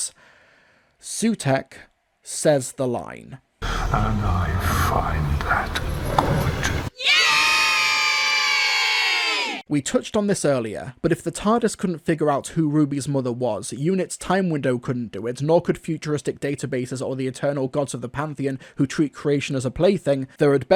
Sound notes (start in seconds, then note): 12.2 cheer